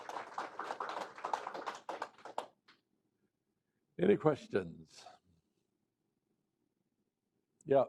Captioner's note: applause